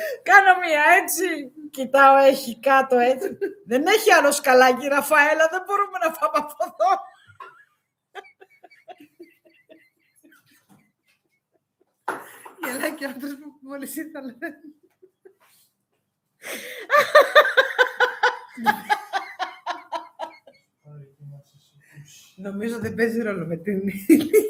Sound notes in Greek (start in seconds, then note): 8.0 γέλια; 16.9 γέλια